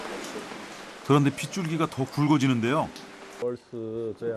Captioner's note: raindrops suddenly getting thicker